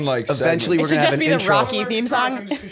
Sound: chuckle

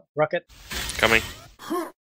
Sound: rocket

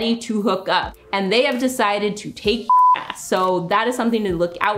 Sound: beep

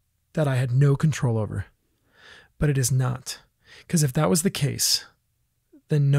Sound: none

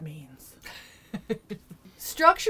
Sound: light laughter

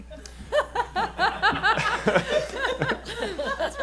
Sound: laughing

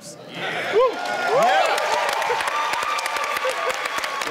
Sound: cheering

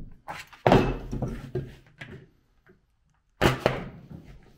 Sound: snips thumping

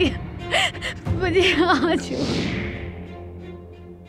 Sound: sobbing

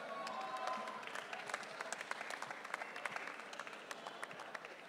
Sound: audience cheering

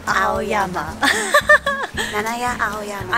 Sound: laughter

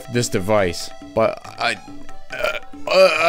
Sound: groaning

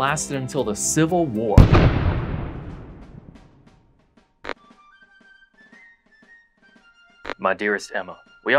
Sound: cannon Explosion

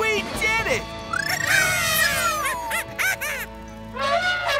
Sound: cheering; trumpeting

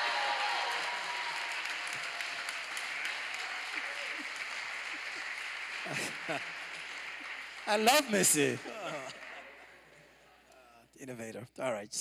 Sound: applause

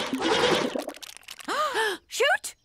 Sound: gasp

